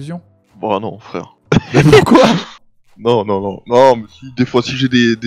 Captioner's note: laugh